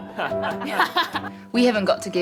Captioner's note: Alice's brother laughs